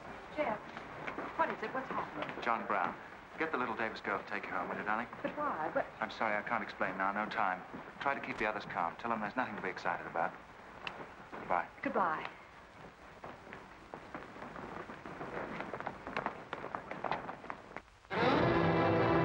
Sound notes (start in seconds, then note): 14.2 boot steps; 18.2 dramatic music